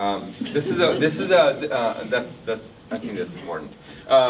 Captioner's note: audience laughs